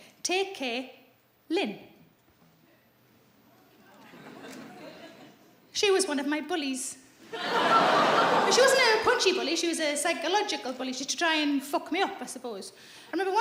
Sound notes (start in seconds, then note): 7.2 audience laughs